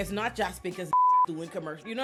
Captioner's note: beep